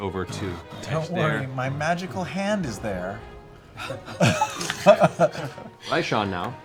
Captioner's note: laughs